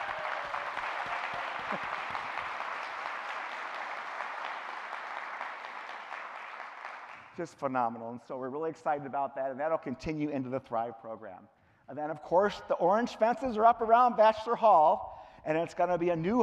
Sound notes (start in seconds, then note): 5.9 cheering; 7.2 clapping